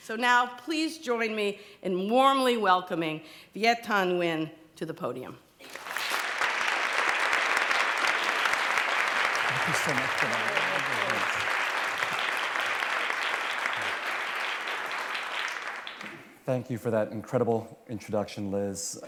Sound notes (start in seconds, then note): 5.6 applause